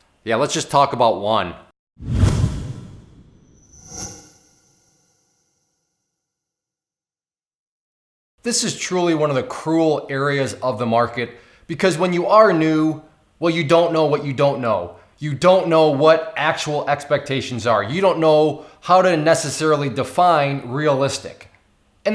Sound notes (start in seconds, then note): 2.0 whooshes